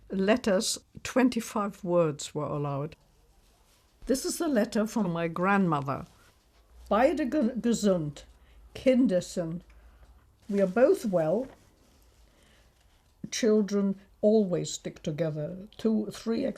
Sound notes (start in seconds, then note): 6.5 reads letter in German